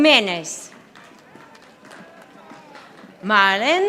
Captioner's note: audience applauding